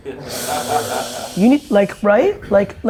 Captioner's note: laughter